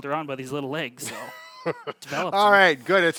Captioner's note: laughs